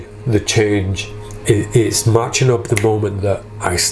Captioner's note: snaps